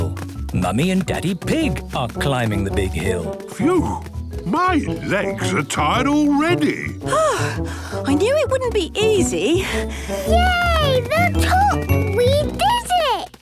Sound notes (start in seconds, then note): 7.0 panting